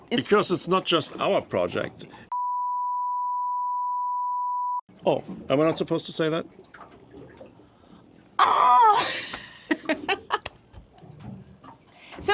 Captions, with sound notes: - Because it's not just our project. (tone beeps) Oh, am I not supposed to say that? - Ah! (chuckling)